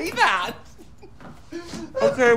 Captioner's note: chuckling